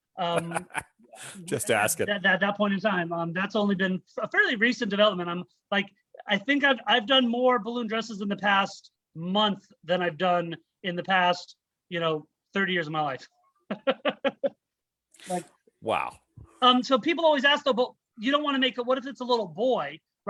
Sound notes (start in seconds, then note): 0.2 laughs; 13.6 chuckles